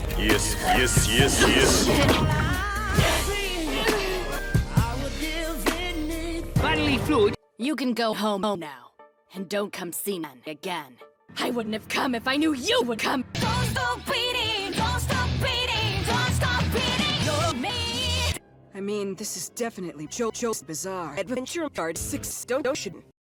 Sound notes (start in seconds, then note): 2.8 Jolyne grunts